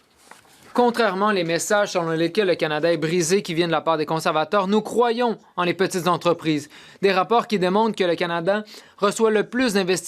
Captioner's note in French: voix de l'interprète